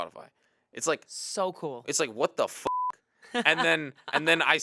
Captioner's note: beep